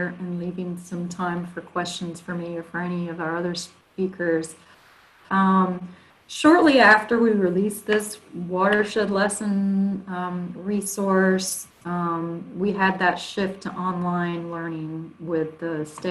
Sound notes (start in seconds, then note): none